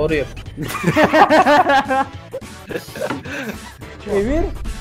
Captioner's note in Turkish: gülüşmeler